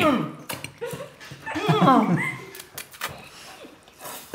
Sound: all laughing

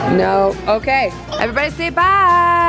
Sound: giggles

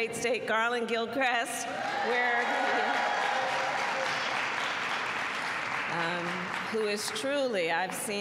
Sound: applause

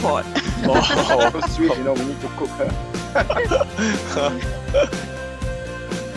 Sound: laughter

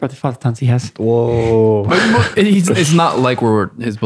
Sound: laughing

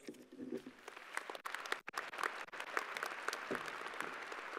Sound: crowd applauding

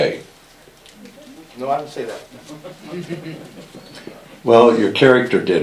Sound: some audience members chuckle

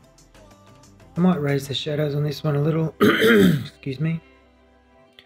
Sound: coughs

